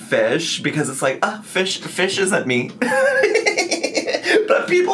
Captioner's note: laughs